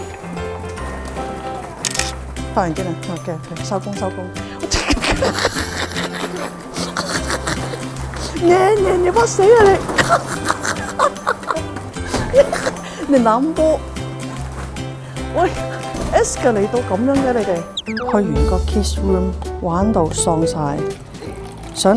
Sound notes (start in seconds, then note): 4.7 laughter; 9.6 laughter